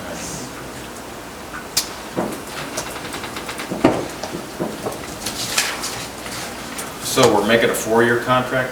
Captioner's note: none